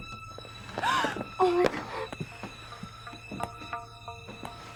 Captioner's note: knocking; gasping